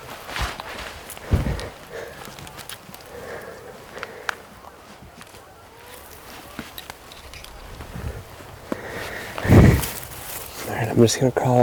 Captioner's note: crunching noises